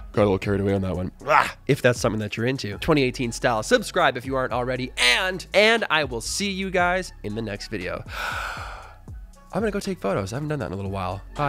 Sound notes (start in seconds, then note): 8.1 sighs